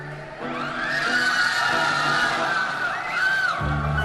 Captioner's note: crowd cheering